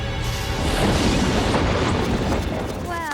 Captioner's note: thundering